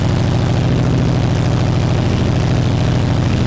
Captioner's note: engine running